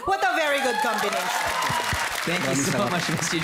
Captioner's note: applauding